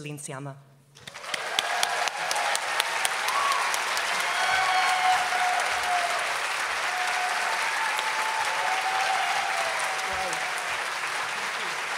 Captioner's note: applause. Céline enters the stage and greets the audience